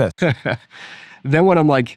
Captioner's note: laughing